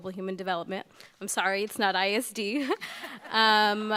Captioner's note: laughing